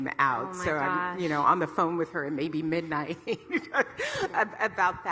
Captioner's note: laughs